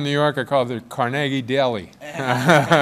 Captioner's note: laughter